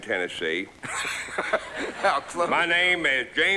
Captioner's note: laughs